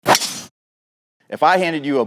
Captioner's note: logo whooshing